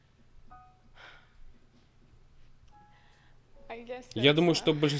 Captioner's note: sighs